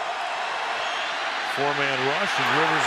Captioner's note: cheering